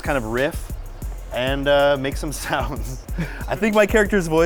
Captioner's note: chuckling